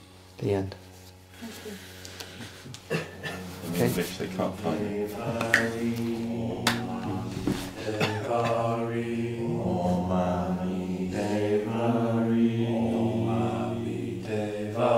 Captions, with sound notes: The end. [Chanting in unison] Om ami deva hri, Om ami deva hri.